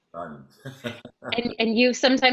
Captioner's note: giggles